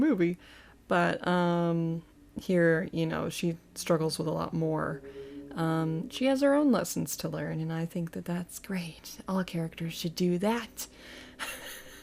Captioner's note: haha